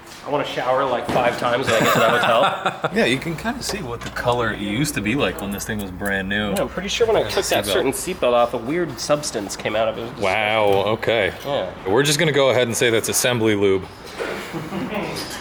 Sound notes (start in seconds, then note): 1.6 laughter